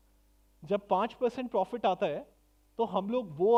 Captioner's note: non-english speech